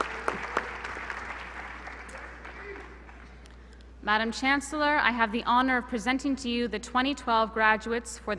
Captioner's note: applause